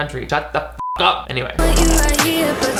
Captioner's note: beep